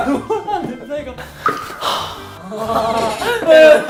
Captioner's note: sigh